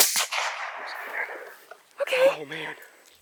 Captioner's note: gunshot